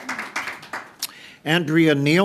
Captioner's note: applause